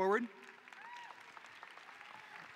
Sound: applause

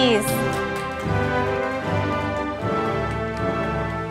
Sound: audience applauding

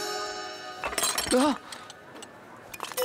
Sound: clanking; circus music playing

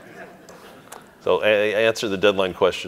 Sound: audience laughing

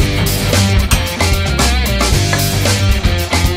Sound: metal clangs; bottle clinks

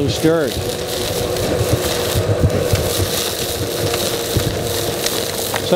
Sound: sound of gravel being sucked into hose

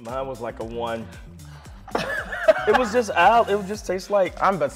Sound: laughing

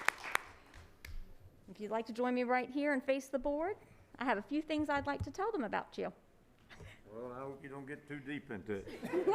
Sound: applause

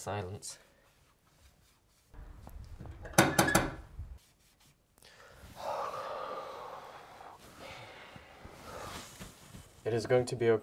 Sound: door knock

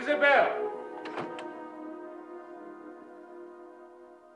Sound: door closes

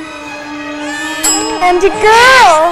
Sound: ding!

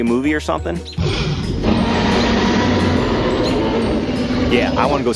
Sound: dinosaur roars

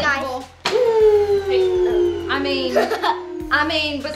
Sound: vacuum whirling

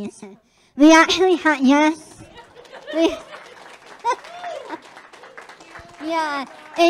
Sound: laughing; public clapping

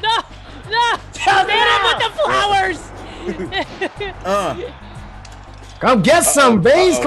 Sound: laugh

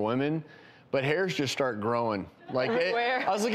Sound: laughing

